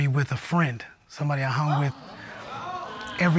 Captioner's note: audience exclaiming